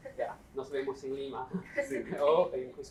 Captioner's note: non-english speech